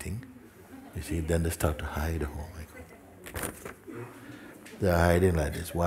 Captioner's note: laughter